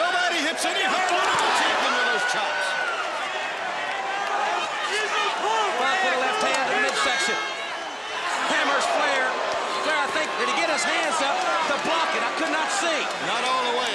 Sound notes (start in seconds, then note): 2.6 crowd chatter